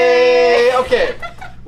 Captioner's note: laughing